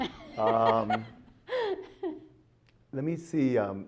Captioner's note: laughs